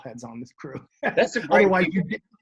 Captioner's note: laughs